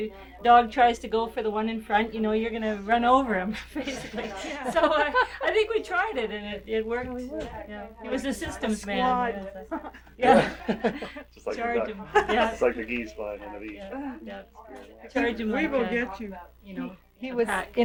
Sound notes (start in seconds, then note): 3.7 crowd laughter; 3.7 laughs